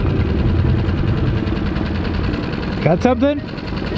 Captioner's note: engine revving